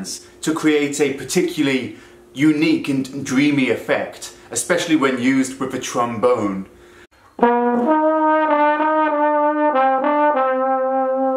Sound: trombone effect

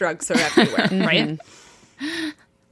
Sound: both laughing

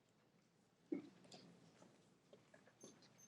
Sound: none

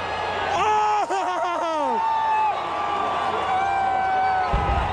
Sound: crowd cheering

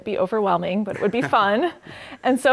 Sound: laugh

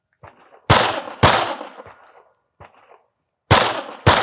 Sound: gunfire popping

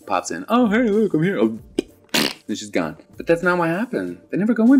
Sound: pop and fart noise

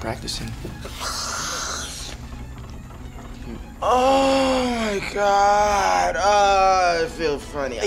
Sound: inhales

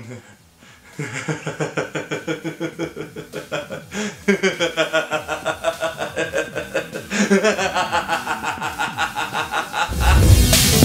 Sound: laughs slowly and insanely

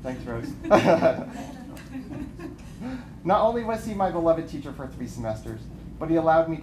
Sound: laughter

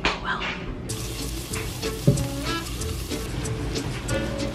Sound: sizzling

